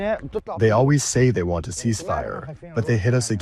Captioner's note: through translator